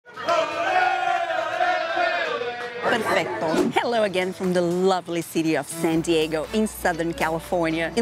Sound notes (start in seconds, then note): 0.0 crowd cheering; 3.3 in Italian